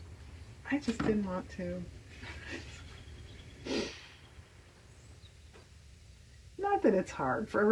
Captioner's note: laughs